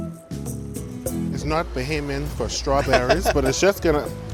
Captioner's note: laughs